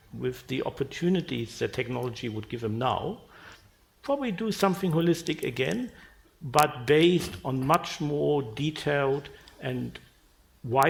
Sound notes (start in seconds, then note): none